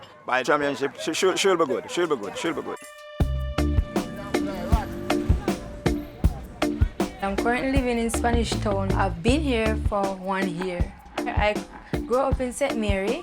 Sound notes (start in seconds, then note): 3.7 reggae music; 3.9 mixed chattering